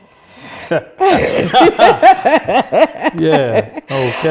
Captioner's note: both laughing